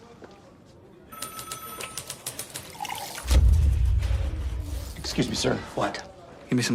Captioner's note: telephone rings